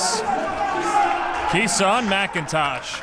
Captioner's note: crowd applauds